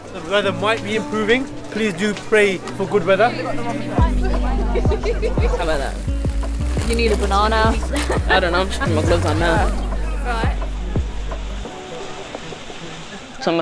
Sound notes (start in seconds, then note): 3.6 hikers chatting; 5.0 laughing